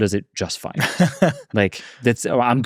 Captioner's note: chuckles